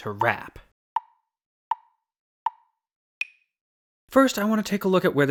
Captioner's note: tick, tick, tick, tick, tock